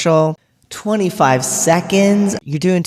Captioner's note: echoing